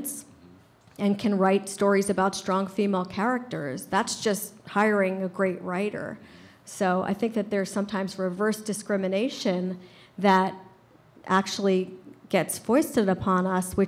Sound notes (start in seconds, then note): none